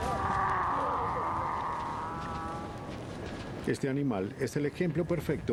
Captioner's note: camello berreando